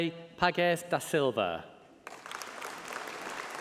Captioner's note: applause